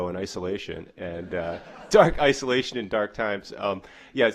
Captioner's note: audience laughter